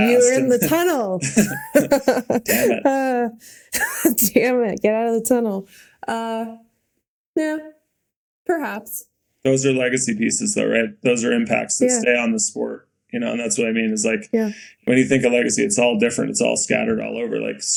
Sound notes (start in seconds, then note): 1.2 Bode and Mikaela laughing; 3.5 Mikaela laughing